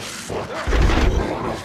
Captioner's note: panting; gunshot